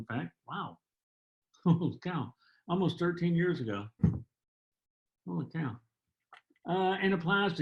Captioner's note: laughter